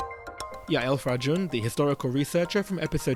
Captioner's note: voiceover